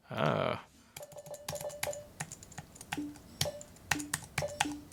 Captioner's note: electronic popping